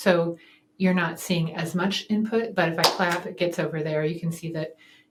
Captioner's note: claps